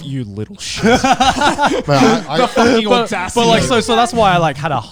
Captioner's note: laughing